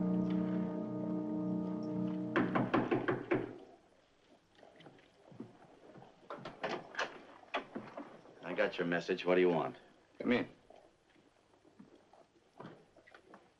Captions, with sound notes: [ KNOCKING ON DOOR ] I got your message, what do you want? Come in.